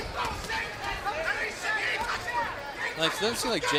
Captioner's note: overlapping shouting